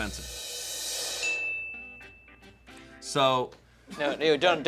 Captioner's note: upbeat music; bell dings